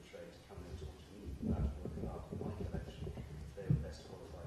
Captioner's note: laughs